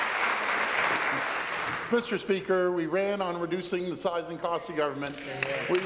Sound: applause

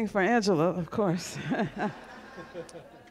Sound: laughter

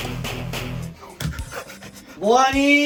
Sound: sniffing

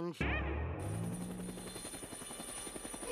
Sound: whirring

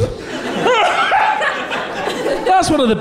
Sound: laughter

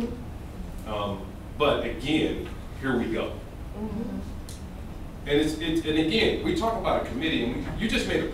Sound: sound of agreement

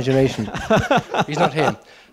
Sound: Charles laughs

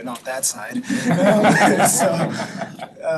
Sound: board members laughing

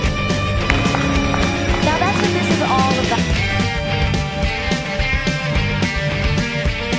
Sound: clap clap

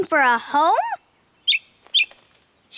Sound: squeaking

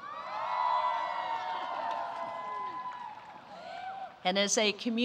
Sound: applause

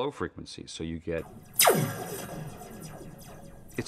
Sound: sound of laser gun firing

